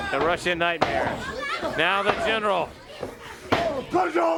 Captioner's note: crowd chatter